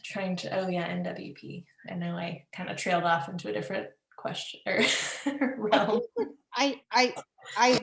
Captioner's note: laughs